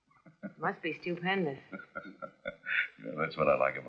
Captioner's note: laughing